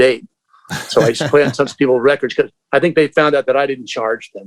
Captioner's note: laughter